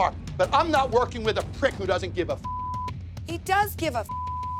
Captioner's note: beep